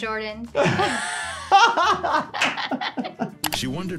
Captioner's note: both laugh